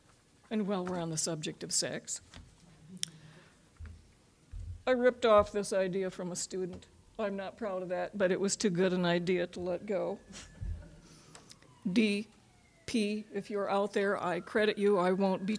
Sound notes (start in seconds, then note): 10.6 audience chuckling